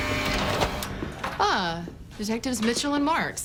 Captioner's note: buzzer